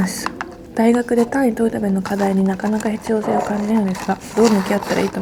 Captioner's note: laughs